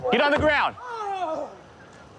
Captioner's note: yelling